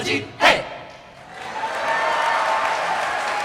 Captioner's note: applause